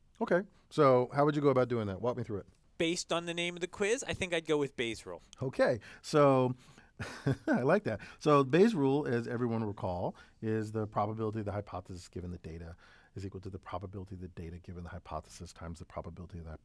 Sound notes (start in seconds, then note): 7.0 laugh